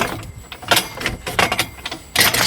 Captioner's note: metallic clacking sound